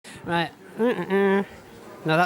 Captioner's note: hums